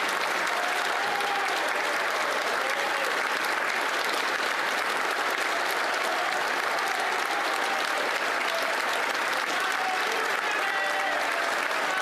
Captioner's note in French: applaudissements